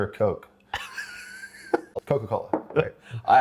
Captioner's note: laughs